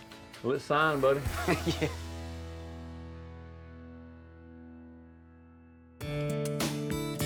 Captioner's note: chuckles